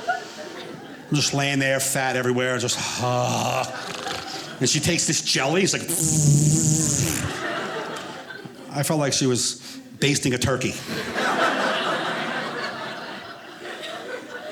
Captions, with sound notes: I'm just laying there fat, everywhere (groans) and she takes this jelly. It was like (audience laughing) I felt like she was basting a turkey. (audience laughing)